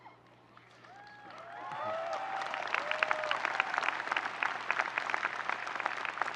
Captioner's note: audience cheering and applauding